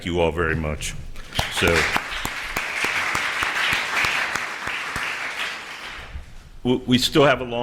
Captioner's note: applause